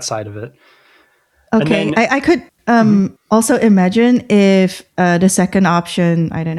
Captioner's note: uh